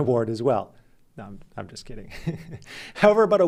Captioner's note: laughs